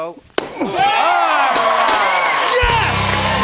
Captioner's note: cheers and applause